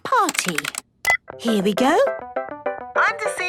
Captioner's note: beep